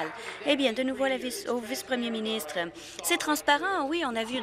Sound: applause

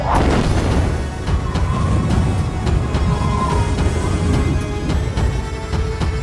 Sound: explosion noise; wind blowing

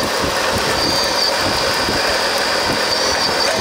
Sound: machine engine roaring; wind blowing

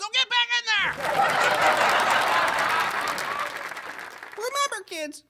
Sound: laughter/applause

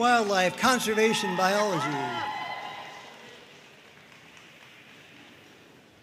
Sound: audience cheering and applauding

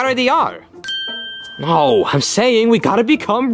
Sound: bell dings

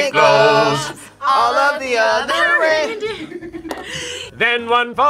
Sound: group laughs

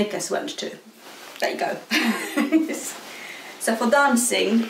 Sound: laughing

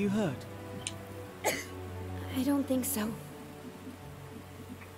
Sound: coughing

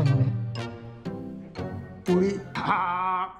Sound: holding back laughter

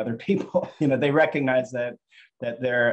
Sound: chuckling

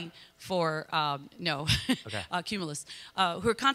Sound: laughs

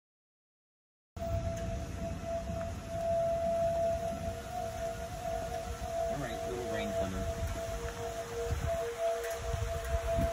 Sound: sound of siren

